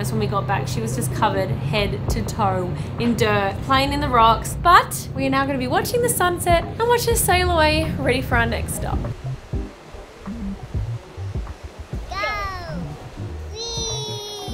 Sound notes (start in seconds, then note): 9.2 water splashing